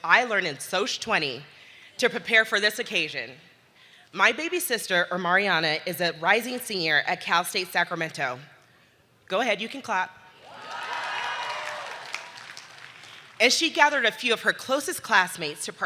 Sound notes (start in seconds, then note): 10.4 audience cheering